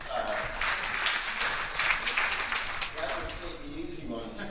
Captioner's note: audience applauding